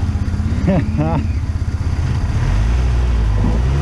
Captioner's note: laughs